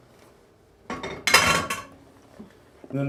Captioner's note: clang